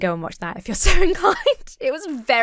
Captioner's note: laughs